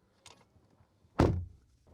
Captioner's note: door Thud